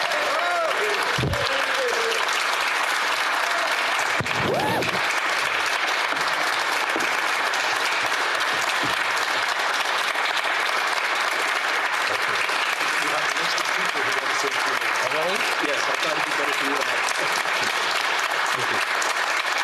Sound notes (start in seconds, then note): 3.4 applause